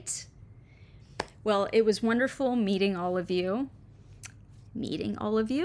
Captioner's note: claps hands